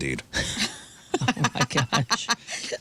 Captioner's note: laughing